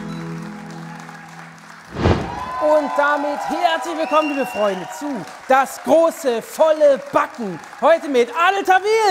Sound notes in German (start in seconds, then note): 1.8 Applaus, Jubel